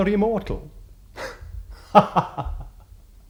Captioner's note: laughs